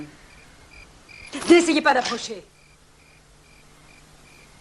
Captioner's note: cocks Gun